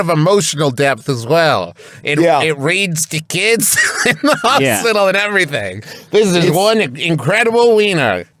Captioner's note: laughs